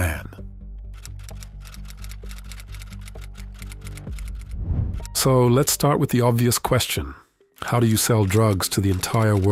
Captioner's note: keyboard clicking